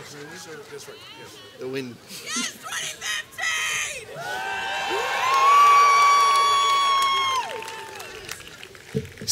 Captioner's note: background chatter, then "Go 2015!" and cheers